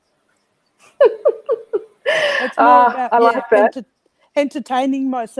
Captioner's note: chuckles